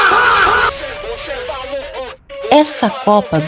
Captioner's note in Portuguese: grito